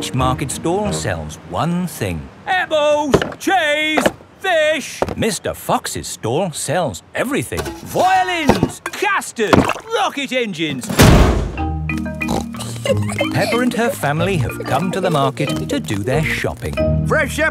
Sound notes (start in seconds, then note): 12.2 snorts and giggles